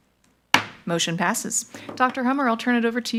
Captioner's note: gavel knocks